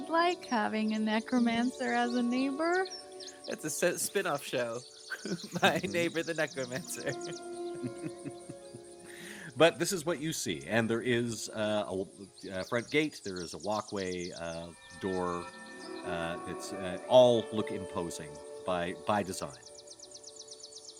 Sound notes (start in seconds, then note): 5.2 laughs; 7.7 Cornette laughs; 7.7 game Master laughs